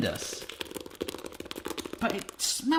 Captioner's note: slopping